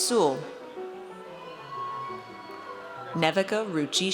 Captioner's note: audience cheers